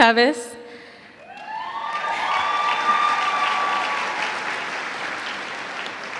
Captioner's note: cheers and applause